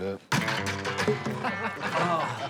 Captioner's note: laughter